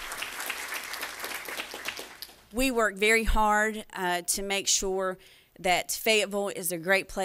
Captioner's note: applause